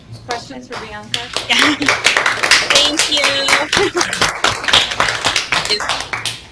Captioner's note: clapping